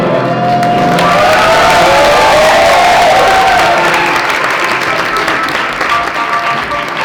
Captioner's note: applause